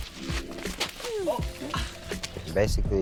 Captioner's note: laughing; grunts